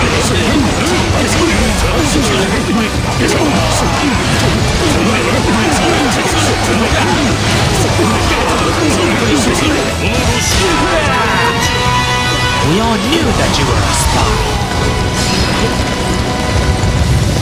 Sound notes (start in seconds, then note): 11.0 KO Scream